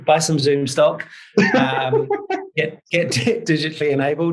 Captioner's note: laughs